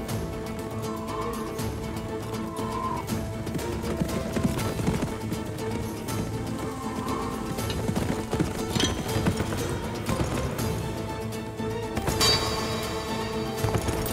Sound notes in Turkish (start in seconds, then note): 3.7 At nalı sesleri; 5.0 Rüzgâr sesi